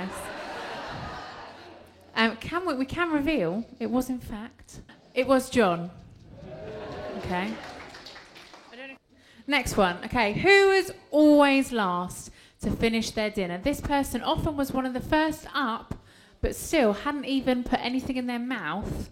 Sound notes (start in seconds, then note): 0.0 laughter; 6.2 applause